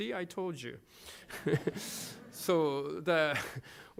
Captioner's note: laughter